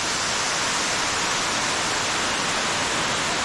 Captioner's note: rushing water